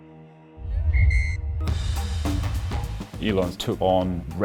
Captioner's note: ref whistle blows